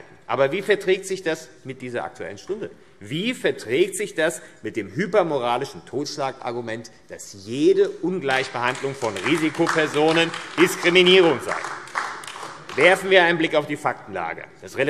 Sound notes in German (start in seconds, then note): 11.6 Beifall AfD